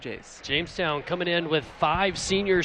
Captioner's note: applause